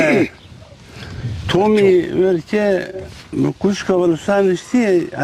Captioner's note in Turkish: boğazını temizler